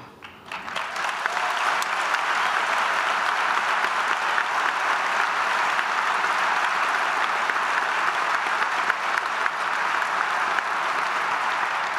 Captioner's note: applause